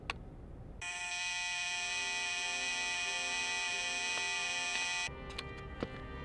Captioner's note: buzzer Buzzing